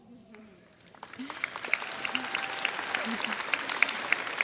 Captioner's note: graduates applaud